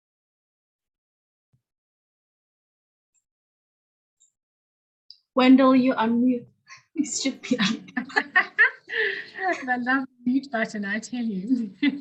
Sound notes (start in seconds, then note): 7.1 laughs